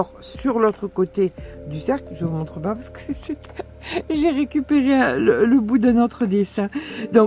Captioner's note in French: rires